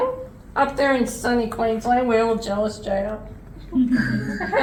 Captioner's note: laughs